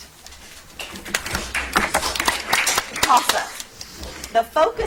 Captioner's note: audience applauds